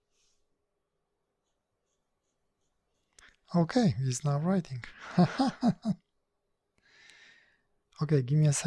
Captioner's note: some idiotic laugh in the background - sorry :D